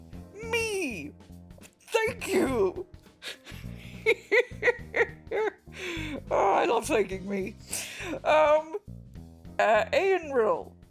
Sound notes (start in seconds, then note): 3.2 laughs